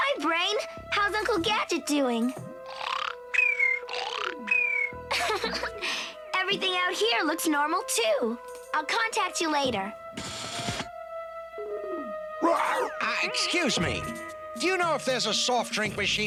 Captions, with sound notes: HI, BRAIN. HOW'S UNCLE GADGET DOING? [SNORES] [LAUGHS] EVERYTHING OUT HERE LOOKS NORMAL, TOO. I'LL CONTACT YOU LATER. RUUHR! UH, EXCUSE ME. DO YOU KNOW IF THERE'S A SOFT DRINK MACHINE